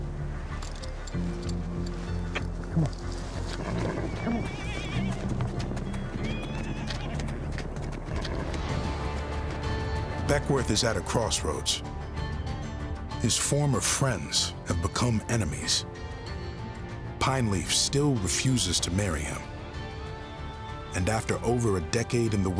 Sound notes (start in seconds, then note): 0.2 tense music; 5.1 horses neighing; 8.7 tense music